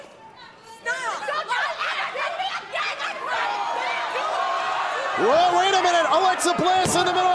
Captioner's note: shouting